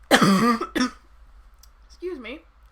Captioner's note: coughs